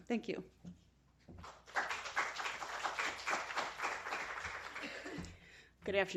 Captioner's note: applause